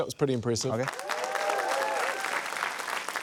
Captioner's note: applause